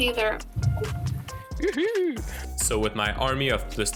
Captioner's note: weird happy noise